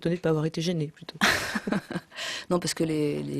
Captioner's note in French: rires